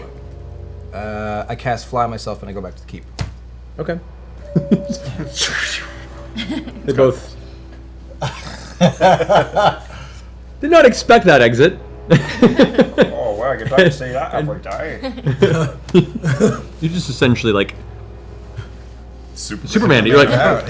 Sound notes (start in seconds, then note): 4.4 whoosh